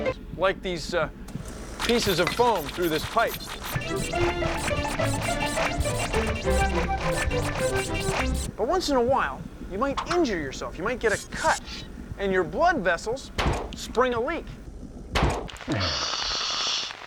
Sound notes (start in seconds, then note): 15.1 pop!